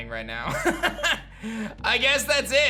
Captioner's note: laughs